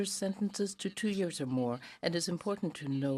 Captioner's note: speaking French